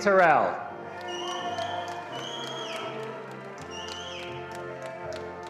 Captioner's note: attendees applauding